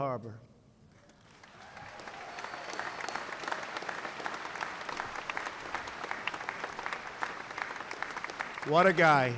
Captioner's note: applause